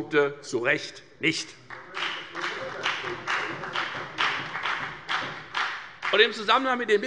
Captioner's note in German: Beifall bei der FDP und bei Abgeordneten der SPD